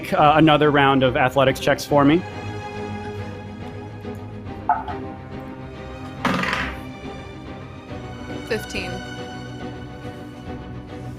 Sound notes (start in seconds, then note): 2.7 dramatic instrumental music; 6.3 dice clatters